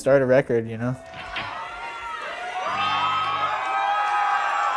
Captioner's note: crowd cheering